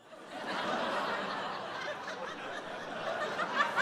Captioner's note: audience laughing